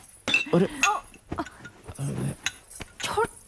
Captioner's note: bottle sound